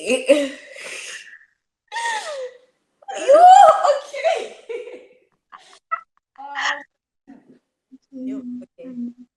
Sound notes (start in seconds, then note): 3.1 exclaims